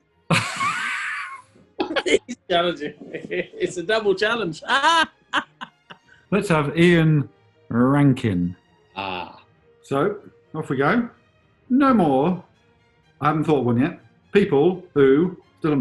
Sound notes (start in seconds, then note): 0.3 laughter; 1.8 laughing